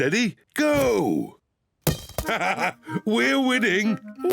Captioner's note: laughs